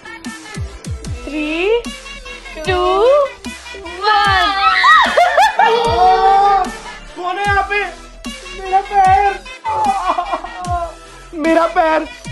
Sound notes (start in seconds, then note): 4.4 laughing; 6.0 shouting; 10.5 groaning in pain